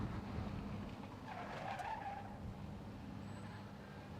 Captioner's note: brakes squeal